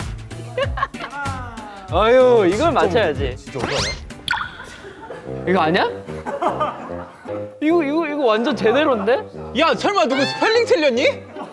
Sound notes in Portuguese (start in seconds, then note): 4.3 Pessoal chorando novamente